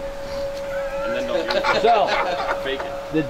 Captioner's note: laughing